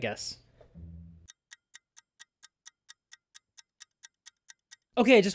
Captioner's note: ticking clock